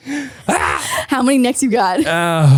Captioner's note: screams